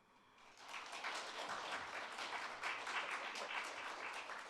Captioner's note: audience applauds